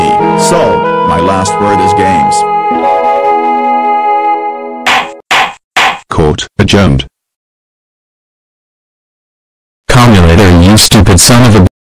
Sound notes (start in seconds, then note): 4.8 judge hit 3 times